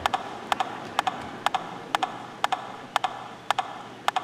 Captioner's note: audience laughing